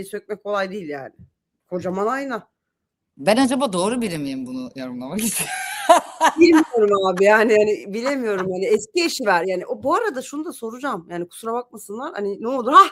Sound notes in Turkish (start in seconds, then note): 5.2 kahkaha